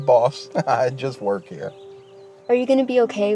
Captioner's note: chuckles